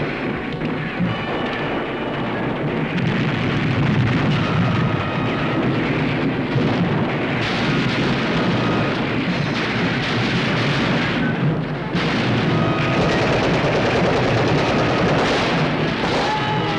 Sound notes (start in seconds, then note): 2.5 explosion; 7.0 gunfire